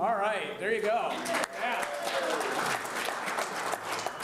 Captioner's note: applause